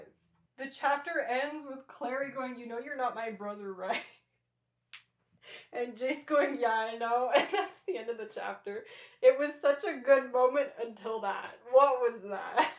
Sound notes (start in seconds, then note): 3.7 laughter